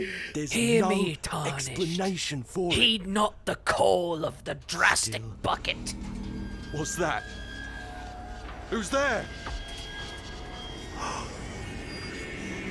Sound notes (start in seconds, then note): 0.4 imitating tape voice; 5.7 metal screeching; 10.8 rumbling sounds; 10.8 tape voice gasps